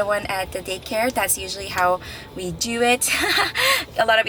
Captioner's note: laughs